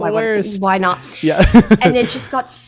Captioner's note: chuckles